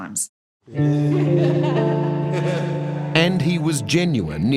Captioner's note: laughing